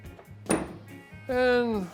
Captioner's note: tool clanks on table